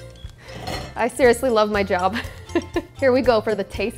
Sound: laughs

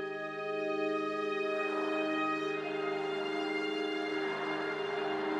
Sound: cars rushing past

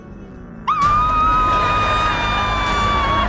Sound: screaming

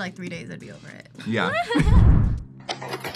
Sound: both laugh

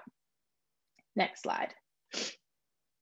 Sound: sniffs

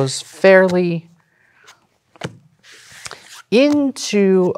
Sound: cards slapping and sliding

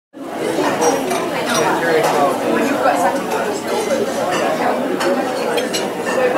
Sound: customers conversing; dishes clattering

